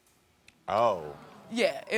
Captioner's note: audience groaning